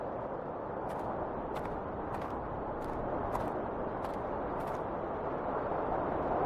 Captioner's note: wind whistling continues; footsteps crunching